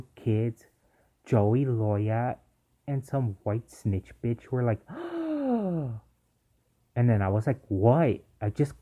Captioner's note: gasp